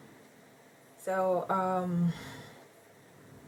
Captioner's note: sighs